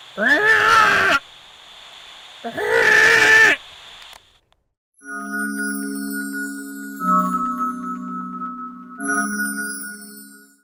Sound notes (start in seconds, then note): 0.2 great egret call; 5.0 fairy dust sound effect